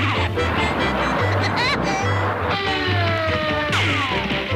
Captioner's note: rocket whirring; Woody laughs cheerfully